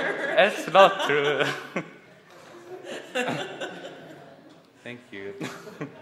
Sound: laughs

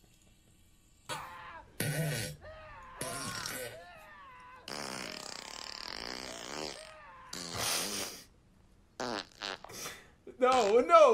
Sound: sobbing laughing; puts scream and fart compilation on the stream audio

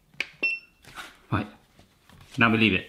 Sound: beep

